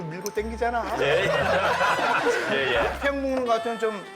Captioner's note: haha!